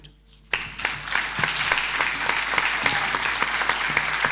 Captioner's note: applause